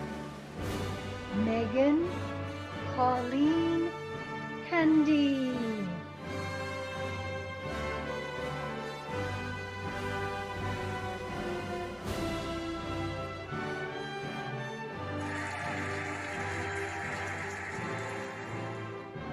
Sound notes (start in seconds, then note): 6.8 cheerful music; 15.1 cheering and applauding